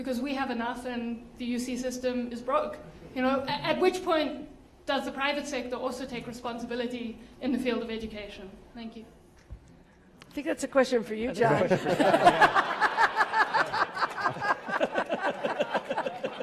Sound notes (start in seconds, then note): 11.6 laugh